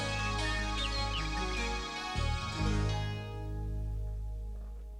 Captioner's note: birds chirping